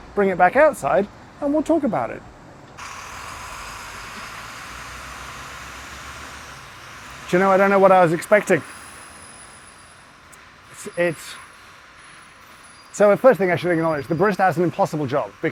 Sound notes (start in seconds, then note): 4.2 traffic rumbling